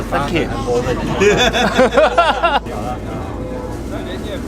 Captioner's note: all laughing happily